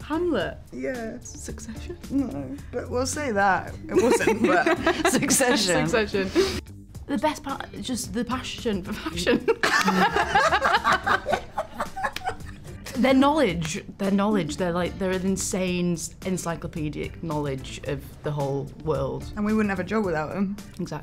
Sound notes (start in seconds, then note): 9.2 Olivia and Emma laugh